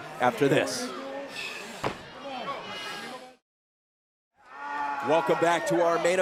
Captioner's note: crowd chatter